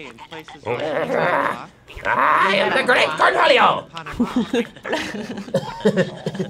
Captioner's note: grunts; chuckling